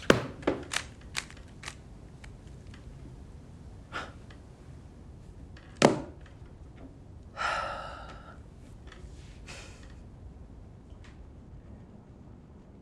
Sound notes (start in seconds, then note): 0.7 cube clicks